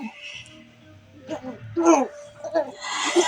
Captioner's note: grunting; wheeze Laugh